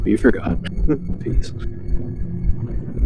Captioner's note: laughs